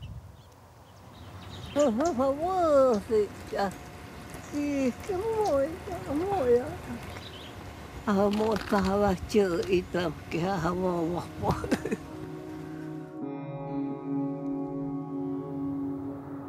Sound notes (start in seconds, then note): 1.4 speaking O■odham language; 9.6 melancholic music